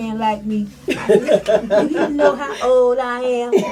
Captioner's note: all laugh